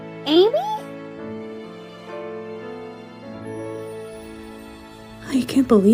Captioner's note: none